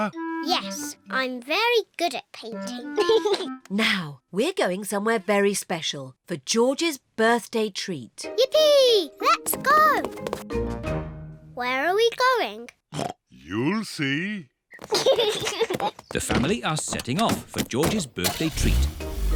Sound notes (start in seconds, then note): 2.9 giggles; 12.9 oinks; 14.8 kids giggle; 19.1 horn honks